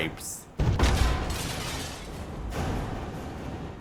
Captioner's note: glass pipe breaks